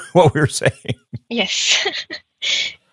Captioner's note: chuckling